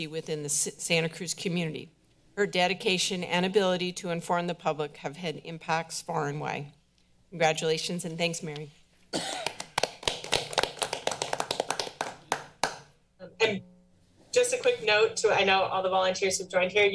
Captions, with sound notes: within the Santa Cruz community. Her dedication and ability to inform the public have had impacts far and wide. Congratulations, and thanks, Mary. (all applauding) - And just a quick note to, I know all the volunteers who've joined here